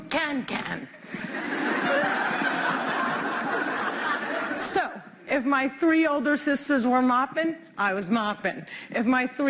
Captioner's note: laughter